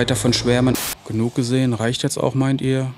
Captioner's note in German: Rauschen